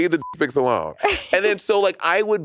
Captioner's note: beep; chuckling